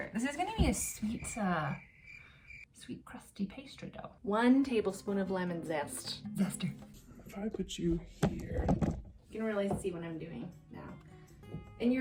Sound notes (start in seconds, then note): 7.5 distorted voice; 9.4 normal voice